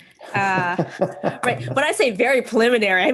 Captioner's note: laughs